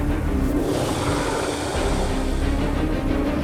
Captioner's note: snarling